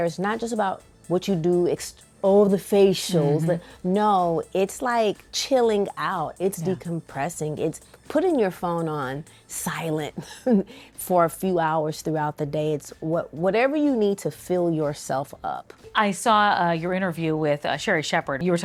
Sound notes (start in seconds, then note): 10.2 chuckles